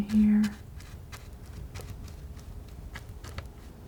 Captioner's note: scratching